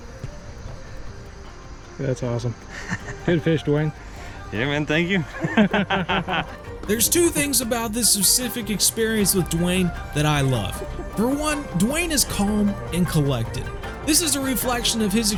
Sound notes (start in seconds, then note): 5.3 laughter